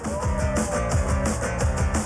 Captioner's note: cheers and applause